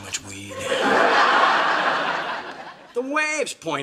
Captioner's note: audience laughs